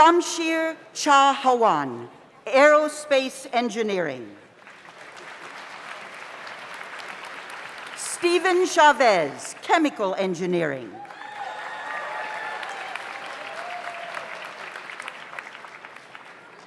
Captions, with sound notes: Shamshir Chahowan, Aerospace Engineering. (audience applauds) Stephen Chavez, Chemical Engineering. (audience applauds) (audience cheers)